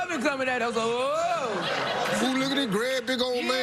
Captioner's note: crowd laughing